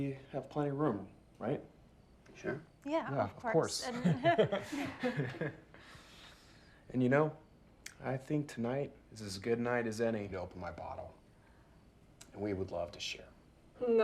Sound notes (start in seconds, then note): 3.8 Claire and Ben laughing